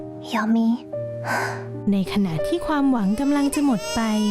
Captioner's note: sigh; crying